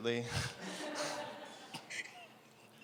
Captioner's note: laughter